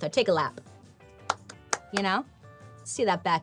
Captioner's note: applauds